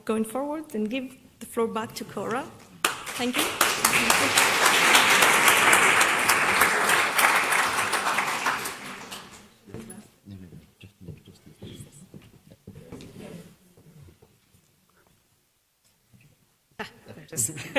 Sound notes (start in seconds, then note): 2.8 applause